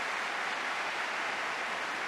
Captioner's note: applause